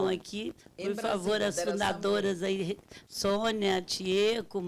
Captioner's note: speaking Portuguese